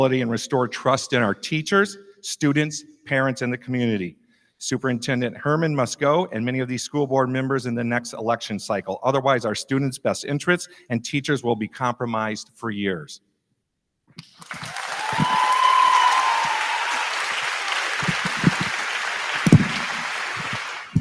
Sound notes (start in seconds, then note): 14.3 crowd clapping; 14.4 crowd cheering